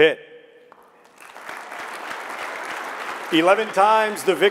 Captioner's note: audience clapping